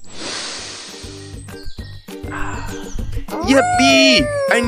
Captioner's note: Farm Mouse takes a deep breath